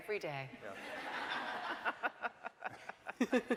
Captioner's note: laughing